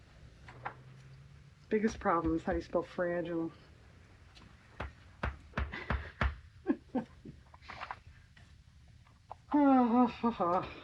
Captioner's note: laughs